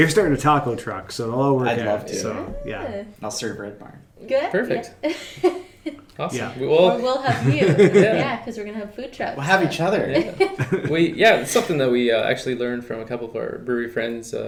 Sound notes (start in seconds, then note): 10.2 laughing